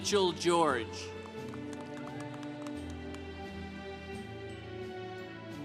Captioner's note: congregation applauding